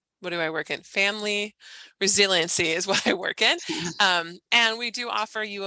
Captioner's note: chuckles